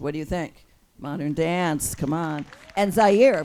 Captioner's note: audience claps and cheers